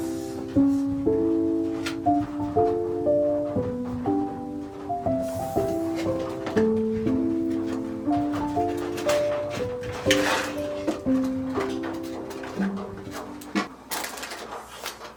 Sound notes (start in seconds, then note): 6.9 thump thump